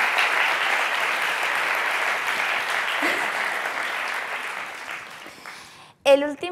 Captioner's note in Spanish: Aplausos